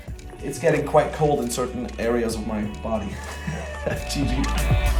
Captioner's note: laughs and speaks faintly